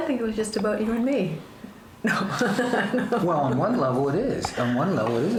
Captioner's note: laughs